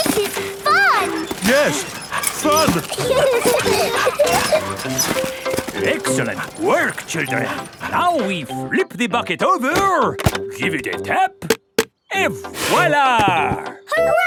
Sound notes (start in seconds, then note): 0.0 mummy and daddy pig panting; 0.0 peppa and george laughing; 1.7 straining; 3.3 peppa and george laughing